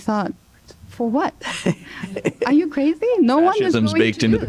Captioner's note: laughter